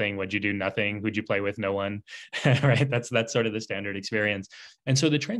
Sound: laughs

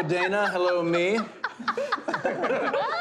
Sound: laughter

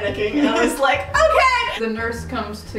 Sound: laughing

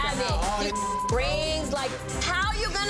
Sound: beep

